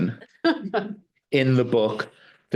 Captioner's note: laughing